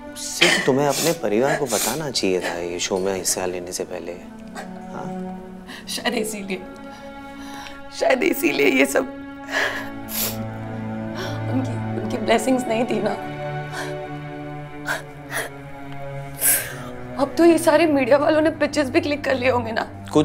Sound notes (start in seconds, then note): 9.5 Sniffs; 14.8 Sobbing; 16.3 Sniffs